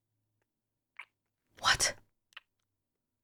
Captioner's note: whispers